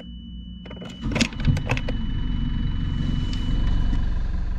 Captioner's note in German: Motor heult